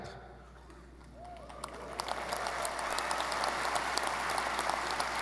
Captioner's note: audience applauding